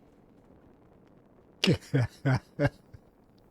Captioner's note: laughing